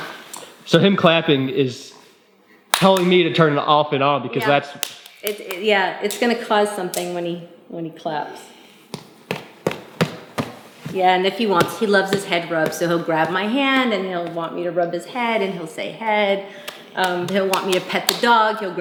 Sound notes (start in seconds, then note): 8.9 stomping; 17.0 clapping